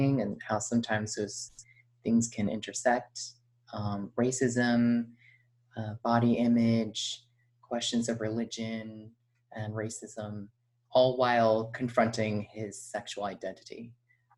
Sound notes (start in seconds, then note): none